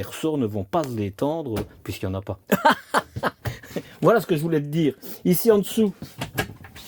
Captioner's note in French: rires